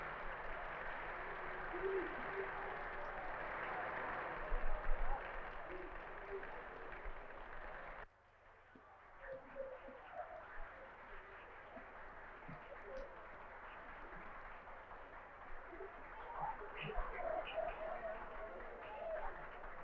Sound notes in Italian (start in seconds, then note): 0.0 Applauso; 8.0 Applauso